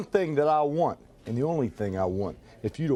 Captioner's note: none